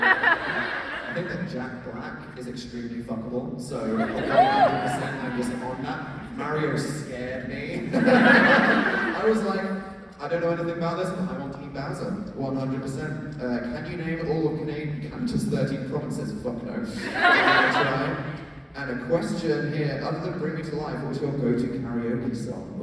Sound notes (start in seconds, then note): 7.8 laughs